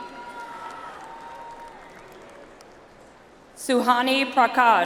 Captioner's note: audience applauds